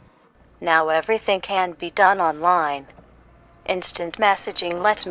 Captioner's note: through computer